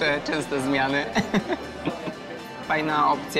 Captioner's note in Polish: śmiech